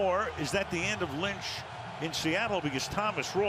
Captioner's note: cheering